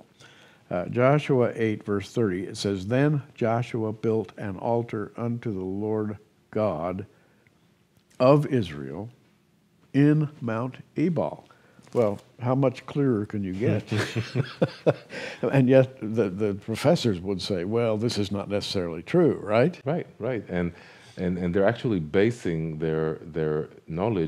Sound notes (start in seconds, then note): 13.7 chuckles